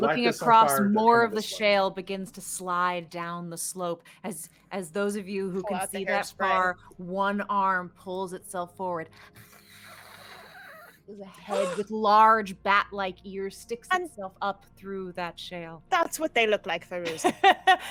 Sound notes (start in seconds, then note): 9.5 hisses; 17.0 laughs